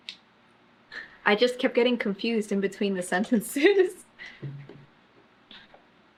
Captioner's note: laughs